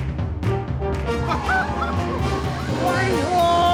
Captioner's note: whooping